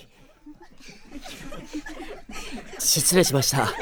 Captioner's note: other students giggling